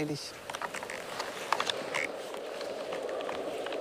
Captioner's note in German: Windrauschen, stapfende Schritte